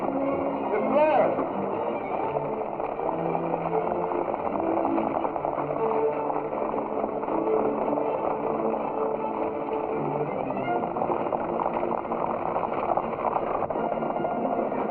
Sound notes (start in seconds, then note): 1.9 tense music continues; 11.3 horses galloping